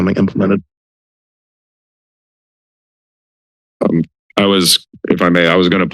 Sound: silence

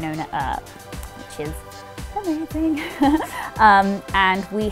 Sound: chuckles

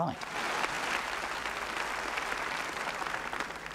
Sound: clapping

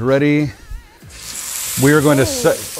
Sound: steak sizzles

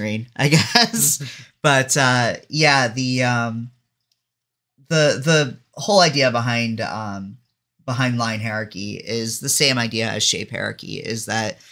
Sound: laughs

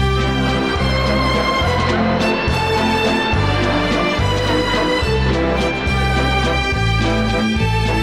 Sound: audience gasping; slow waltz music

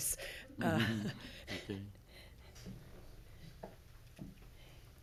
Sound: everyone giggling

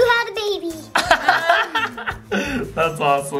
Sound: laughing

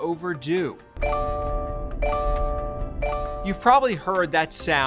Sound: car beeps

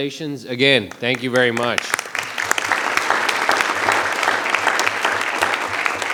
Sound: audience applause

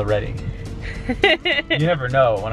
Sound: laughs

